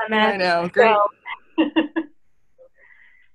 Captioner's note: laughter